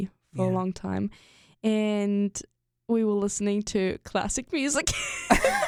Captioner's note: both laugh